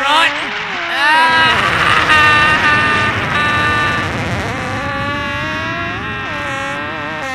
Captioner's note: loud Fart; screams